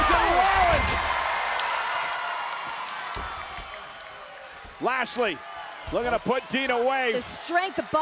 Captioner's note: applause